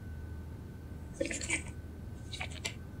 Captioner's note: paper shuffling